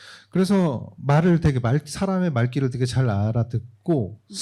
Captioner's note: speaking korean